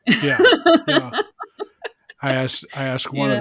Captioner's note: laughs